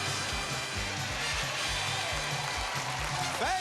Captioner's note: cheers and applause